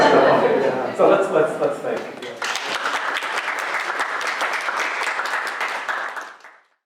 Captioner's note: crowd clapping